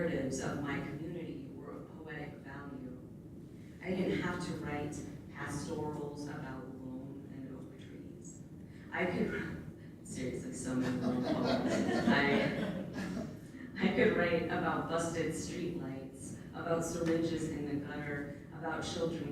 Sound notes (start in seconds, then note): 10.8 laughs; 10.8 laughter